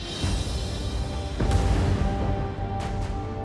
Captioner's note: bombs thud